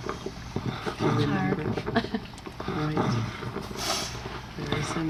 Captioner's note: chuckles